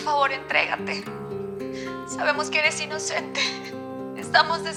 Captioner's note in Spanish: Sollozos